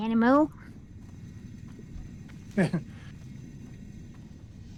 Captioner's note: laughing